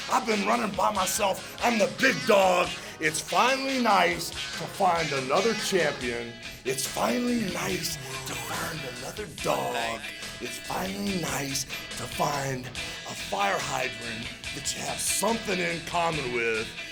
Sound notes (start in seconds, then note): none